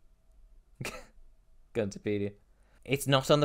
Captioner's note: laughs